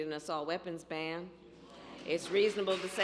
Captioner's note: applause